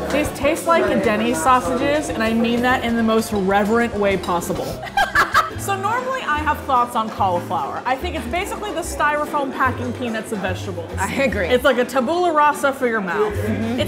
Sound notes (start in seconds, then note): 4.8 laughing